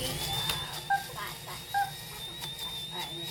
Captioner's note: sound of coffee grinding